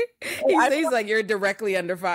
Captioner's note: laughing